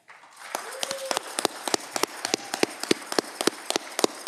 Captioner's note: audience clapping